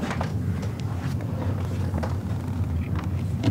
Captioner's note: whirring